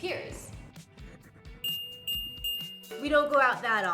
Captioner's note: bells chime